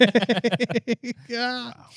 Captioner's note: laughing